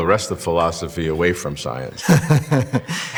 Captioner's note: laughs